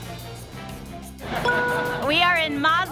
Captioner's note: ding